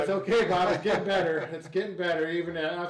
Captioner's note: laughing